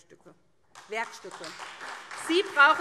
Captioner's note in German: Beifall SPD, Freie Demokraten und DIE LINKE